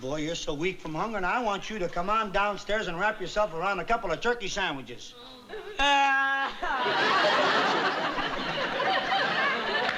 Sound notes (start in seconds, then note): 5.6 audience laughing; 5.6 crying